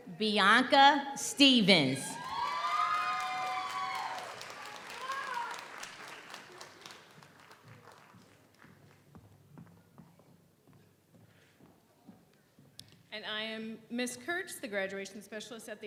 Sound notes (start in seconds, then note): 2.1 audience cheers; 2.2 audience applauds